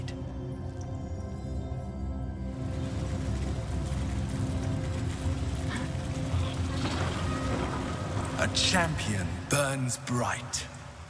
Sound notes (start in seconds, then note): none